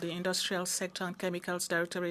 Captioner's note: speaking in French